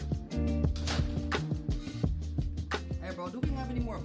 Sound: door clicks

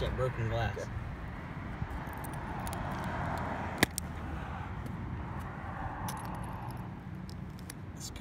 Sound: glass crunching

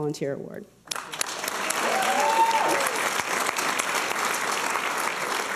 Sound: applause and cheers

